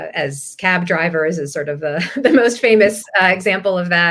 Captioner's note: laugh